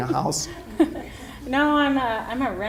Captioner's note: laughter